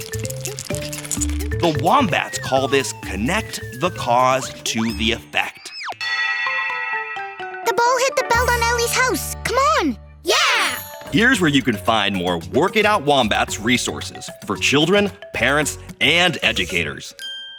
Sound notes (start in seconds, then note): 6.0 bell rings